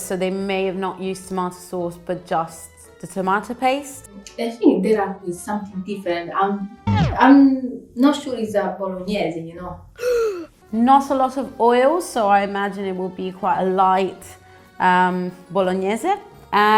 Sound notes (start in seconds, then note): 10.0 emoji gasps